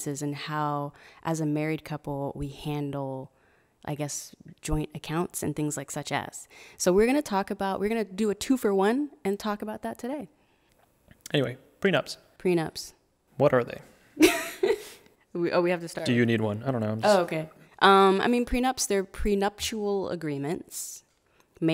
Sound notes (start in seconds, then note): 14.2 laughs